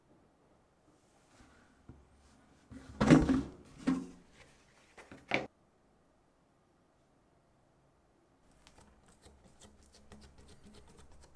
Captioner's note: folding